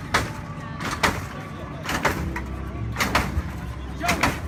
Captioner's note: bangs